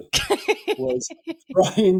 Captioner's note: laughing